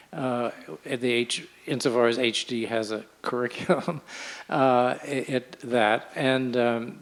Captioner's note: laughs